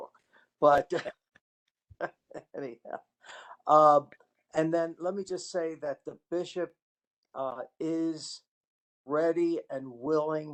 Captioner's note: laughter